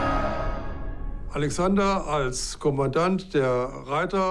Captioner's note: in German